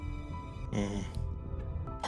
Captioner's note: small, impressed noise